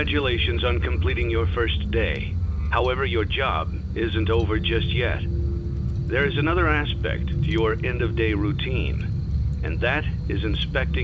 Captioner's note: tape click sound